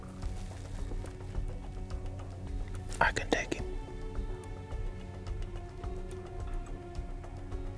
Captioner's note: whispering